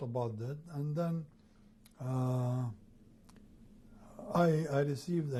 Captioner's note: pauses for 3 seconds